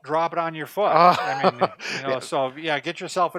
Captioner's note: laughing